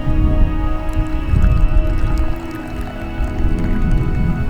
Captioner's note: coffee pouring